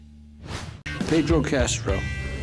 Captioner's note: swooshing